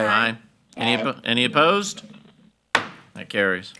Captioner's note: hammer slamming